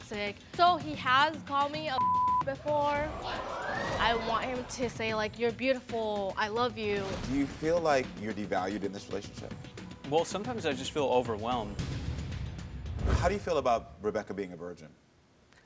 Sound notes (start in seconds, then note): 3.2 audience mumbling